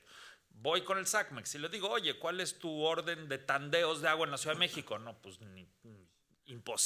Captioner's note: speaking Spanish continues